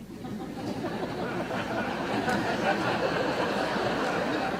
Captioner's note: audience laughter